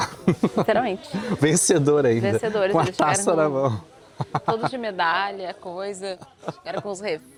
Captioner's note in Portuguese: risadas